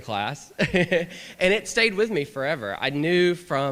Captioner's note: laughter